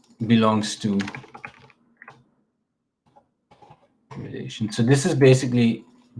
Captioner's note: keyboard clacking